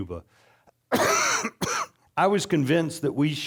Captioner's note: coughing